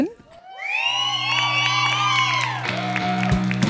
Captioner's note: applause